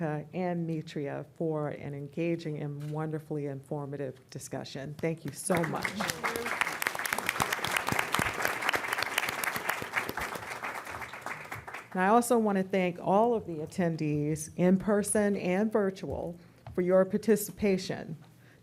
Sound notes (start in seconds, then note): 5.3 applause